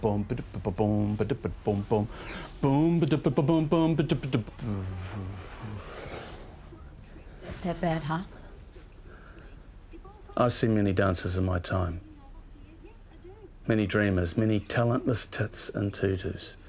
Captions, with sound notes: *exhales* That bad, huh? I've seen many dancers in my time Many dreamers, many talentless tits in tutus